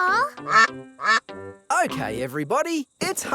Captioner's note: quacking